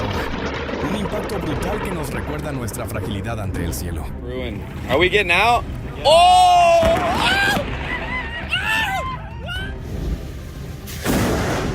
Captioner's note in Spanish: grito